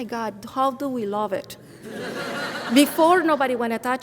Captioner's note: audience laughs